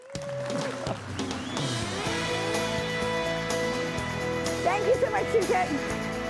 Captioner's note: audience applauds; lively music